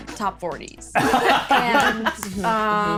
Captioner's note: laughing